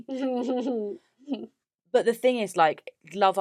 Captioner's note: laughs